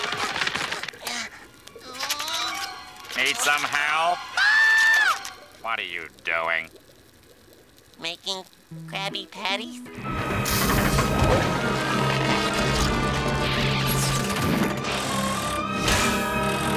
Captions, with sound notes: Need some help? [screaming] What are you doing? Making Krabby Patties?